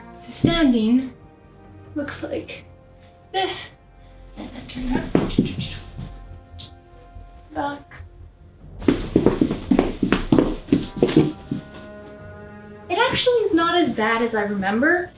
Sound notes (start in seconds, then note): 4.4 pitter patter and rustle of fabric; 8.8 heel stomping